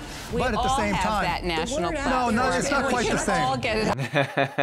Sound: group chattering; laughing

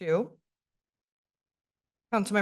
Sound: pause

